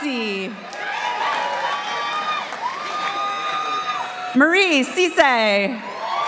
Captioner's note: participants applauding